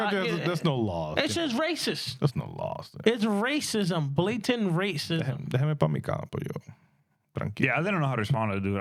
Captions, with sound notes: country, there's no laws. It's just racist. There's no laws. It's racism, blatant racism. (Speaking In Foreign Language) Yeah, I didn't know how to respond to it,